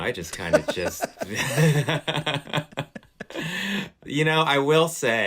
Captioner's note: laughter